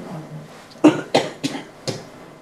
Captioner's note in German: Husten